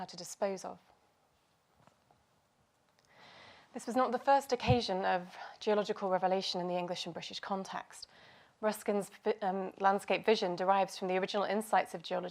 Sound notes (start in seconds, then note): none